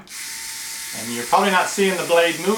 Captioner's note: buzzing